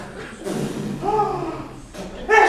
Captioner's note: ακούγεται πορδή